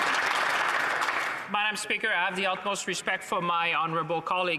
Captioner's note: some Applause